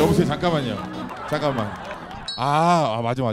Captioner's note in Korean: 오열